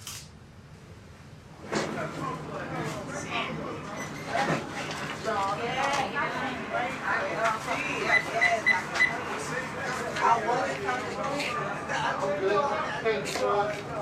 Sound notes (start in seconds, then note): 2.3 shoppers chattering; 8.0 ATM keys beeping; 10.0 shoppers chattering